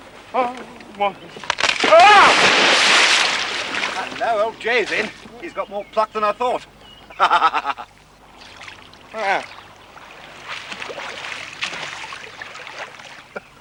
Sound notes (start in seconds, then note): 1.8 exclaiming; 7.0 laughing